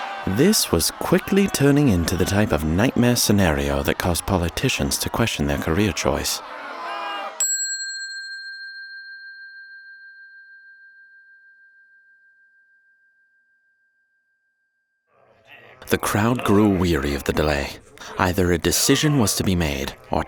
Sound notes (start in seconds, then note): 0.0 crowd yelling; 7.4 bell dinging